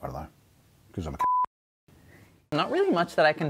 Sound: beep

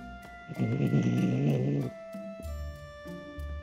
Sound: growl

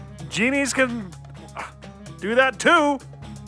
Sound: exhales

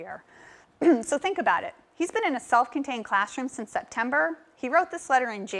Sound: cough

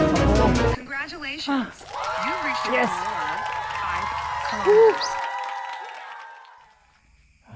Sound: applause

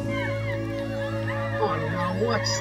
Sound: people yelling

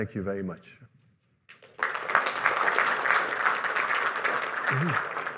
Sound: applause

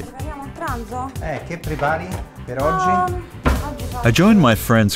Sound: people speaking in foreign language

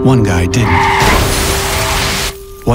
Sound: tires screeching, crashing sounds

